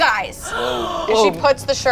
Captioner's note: group gasps